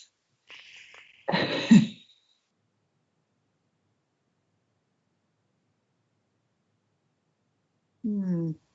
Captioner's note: laughs